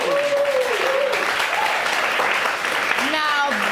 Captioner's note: audience cheering